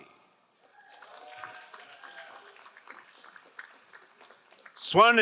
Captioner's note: crowd applauding